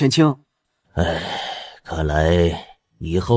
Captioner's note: sigh